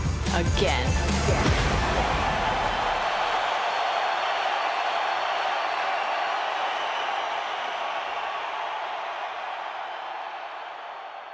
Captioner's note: crowd cheering